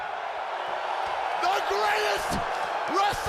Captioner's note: crowd cheering